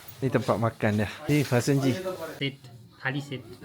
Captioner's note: speaking Nepali